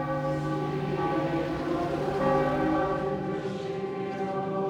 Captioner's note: church bell tolling, choir singing